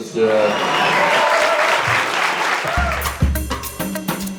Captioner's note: crowd cheering; upbeat music